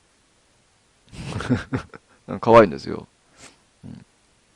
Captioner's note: laughs